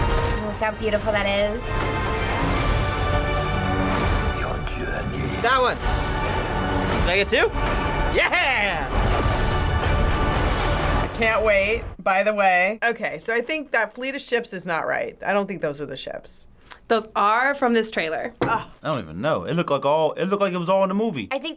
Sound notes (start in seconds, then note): 4.3 voice-over